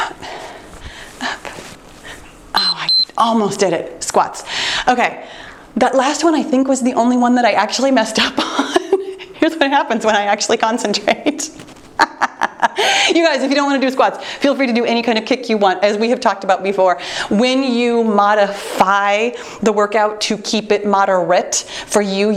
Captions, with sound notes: Up, out. (timer beeps) Oh, I almost did it. Squats. Okay. That last one I think was the only one that I actually messed up on. Here's what happens when I actually concentrate. (laughing) You guys, if you don't want to do squats, feel free to do any kind of kick you want. As we have talked about before, when you modify the workout to keep it moderate for you